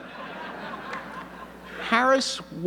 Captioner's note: audience laughing